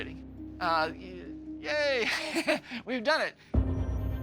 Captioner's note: laughing